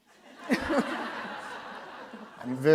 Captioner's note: laughter